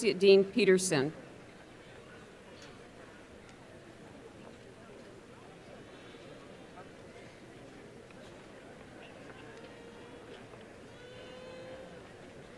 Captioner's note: crowd murmurs